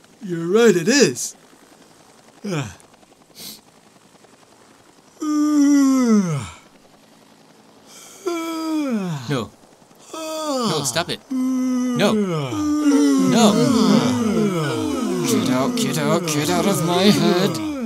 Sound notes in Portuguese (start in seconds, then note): 2.4 Yawns; 5.2 Yawns; 8.3 Yawns; 10.0 Bocejo; 12.4 Bocejo continua